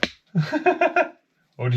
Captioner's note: laughs